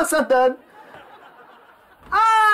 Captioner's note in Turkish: Gülme efekti